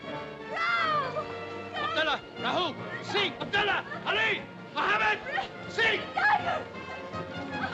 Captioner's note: suspenseful music; Buldeo shouting for men; suspenseful music